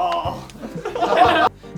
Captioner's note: laughter